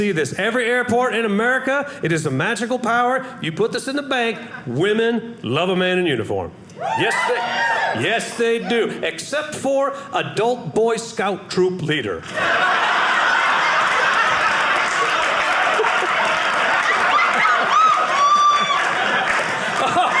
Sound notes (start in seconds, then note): 6.8 audience cheering; 12.2 audience laughing